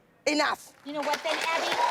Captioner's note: applause, cheering